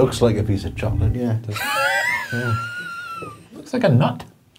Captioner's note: chuckling